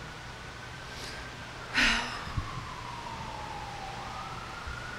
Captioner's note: heavy sigh